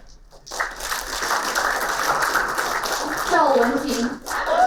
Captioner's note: applauding